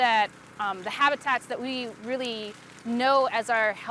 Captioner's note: flames crackling